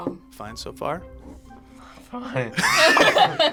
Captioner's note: voice cracks; group laughs